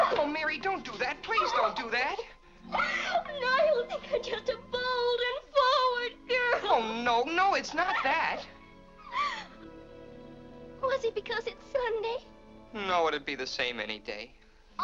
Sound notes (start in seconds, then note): 2.6 weeping